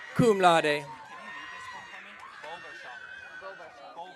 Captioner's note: audience cheering